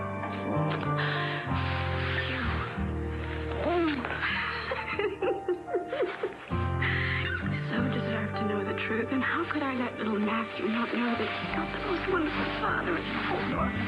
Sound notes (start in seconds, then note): 4.3 Gabrielle laughs